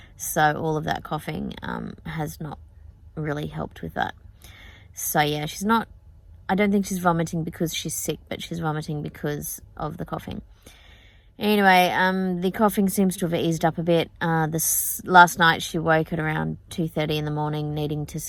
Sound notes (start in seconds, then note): none